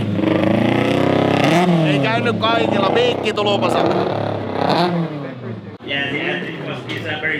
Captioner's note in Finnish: moottorien pärinää